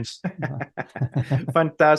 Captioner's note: laughing